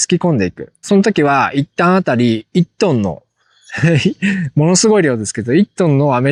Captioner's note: laughs